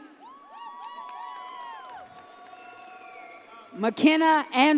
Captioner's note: audience cheers